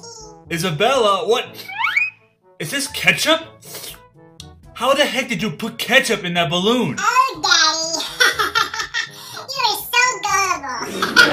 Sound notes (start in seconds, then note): 3.6 sniffs; 3.7 slurps, smacks lips; 10.8 laughs